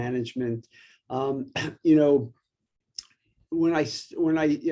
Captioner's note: coughs